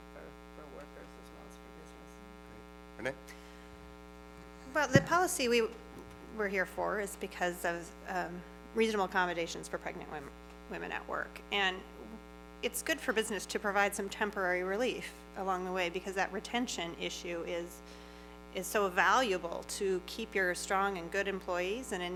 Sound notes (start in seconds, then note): none